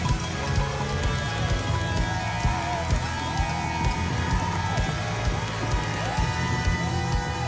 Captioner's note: cheering